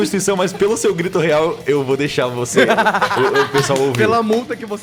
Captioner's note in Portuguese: Risos